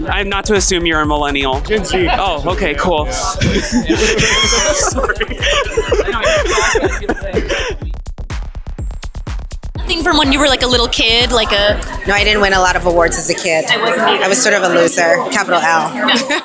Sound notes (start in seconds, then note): 5.7 laughs